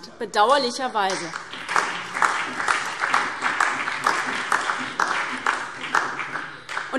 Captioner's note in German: Beifall SPD, Freie Demokraten und DIE LINKE